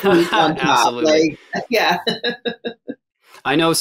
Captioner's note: laughs